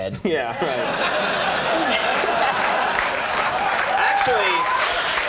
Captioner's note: audience laughing; laughing